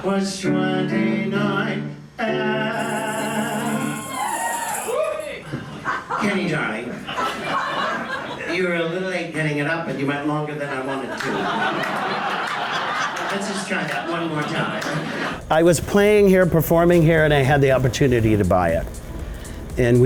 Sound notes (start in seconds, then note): 3.6 audience cheers; 10.6 audience laughs